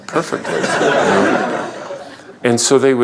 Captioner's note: laughter